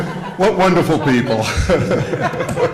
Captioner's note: laughter